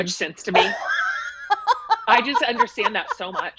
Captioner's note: laughs